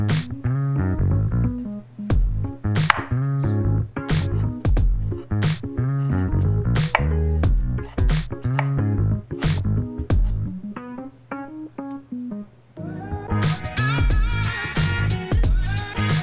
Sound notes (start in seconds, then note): 2.8 knife chopping; 10.9 lively music